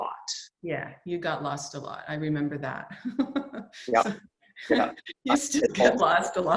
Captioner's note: laughs